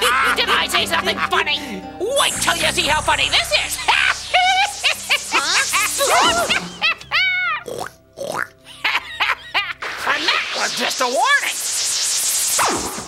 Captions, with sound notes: Did I say something funny? Wait 'til you see how funny this is. (cackling) For now, it's just a warning.